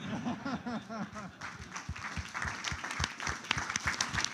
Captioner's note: laughter; applause